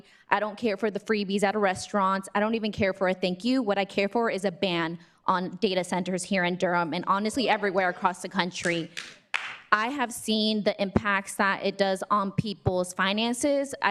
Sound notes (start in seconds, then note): 8.6 clapping